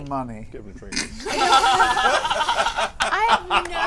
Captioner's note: laughter